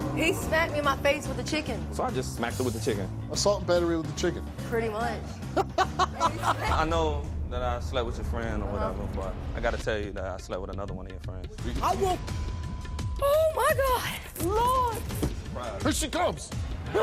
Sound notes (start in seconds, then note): 5.5 laughs; 12.7 beeps; 16.7 laughs